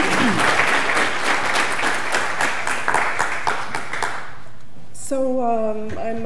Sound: applause

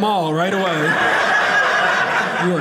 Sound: audience laughing

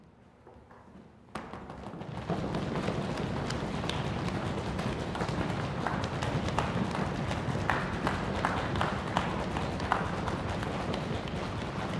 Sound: applause

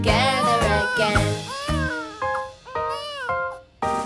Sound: crying

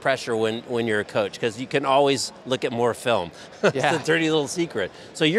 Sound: laughs

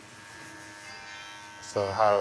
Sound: razor buzzing

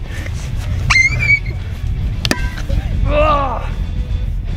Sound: screaming

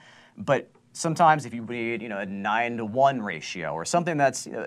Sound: voice muffled

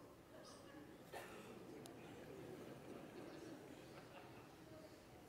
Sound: congregation laughs

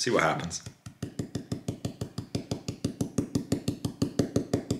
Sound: brush thudding

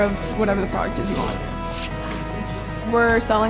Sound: sound of paper sander

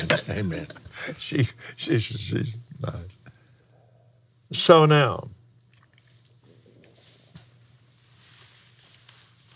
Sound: laughs

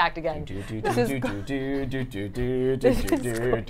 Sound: hums

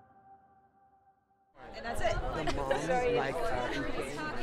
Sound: laughter

